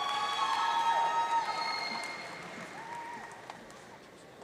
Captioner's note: audience cheering